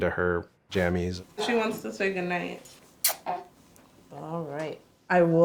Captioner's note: kiss